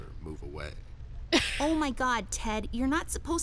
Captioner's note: laughs